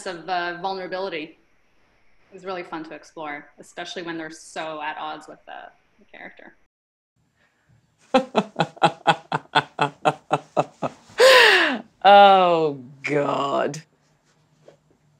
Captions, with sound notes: - And a sense of the vulnerability is really fun to explore, especially when they're so at odds with the character. (laughs) - Oh God!